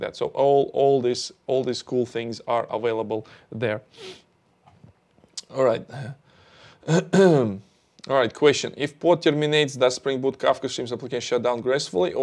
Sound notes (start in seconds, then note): 6.8 clears throat